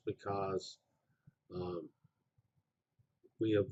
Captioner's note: pause